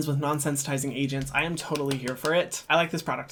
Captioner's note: clapping